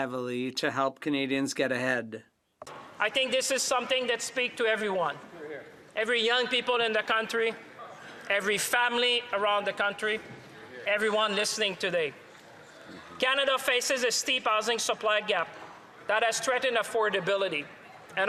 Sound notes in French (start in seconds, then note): 5.3 voix de l'interprète